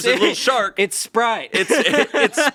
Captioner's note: laughing